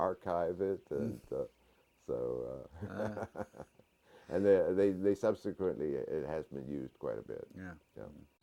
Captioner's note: laugh